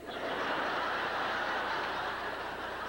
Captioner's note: laughter